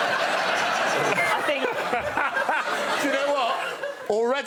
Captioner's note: Greg laughs